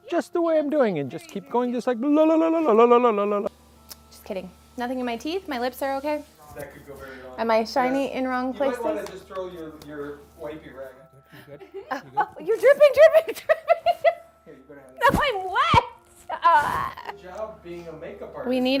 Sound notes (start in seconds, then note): 8.9 male Voice; 14.8 laughter; 16.8 male Voice